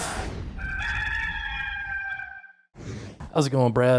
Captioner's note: rooster crowing